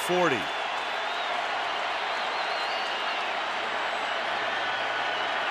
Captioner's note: cheering